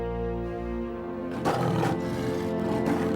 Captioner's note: roaring